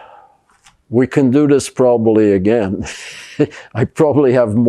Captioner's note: laughing